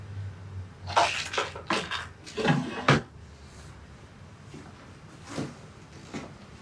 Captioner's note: pills rattle; drawer shuts